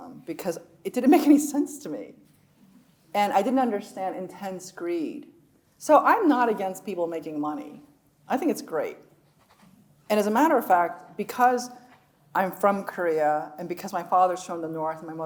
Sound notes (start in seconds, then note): none